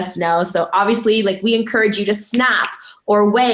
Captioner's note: snaps fingers